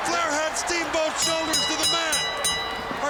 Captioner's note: bell ringing